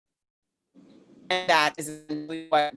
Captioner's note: audio skips